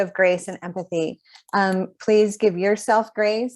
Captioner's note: none